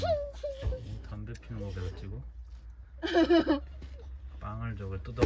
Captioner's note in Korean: 웃음